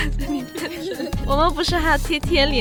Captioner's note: laughing